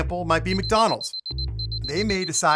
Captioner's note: clock beeping